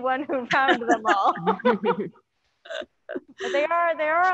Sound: panelists laughing

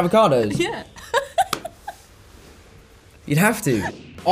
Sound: laughs

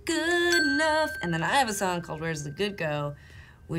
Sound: bell dinging

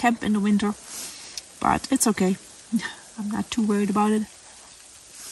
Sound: laughs

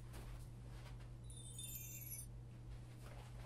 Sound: magic sounds

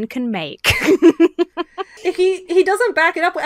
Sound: laughs

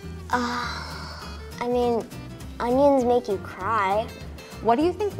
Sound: sighs

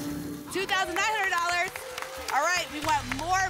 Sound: applause

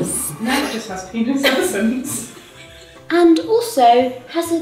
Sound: laughing and talking

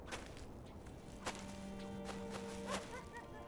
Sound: rustling

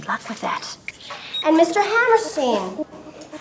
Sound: camcorder beeps

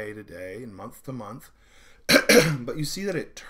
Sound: clearing throat

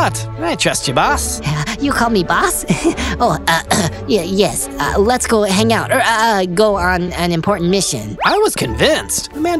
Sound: ahem

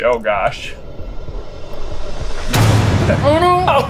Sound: suspenseful whooshing; loud boom

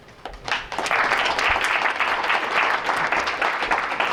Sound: applause

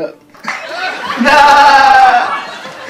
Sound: laughter

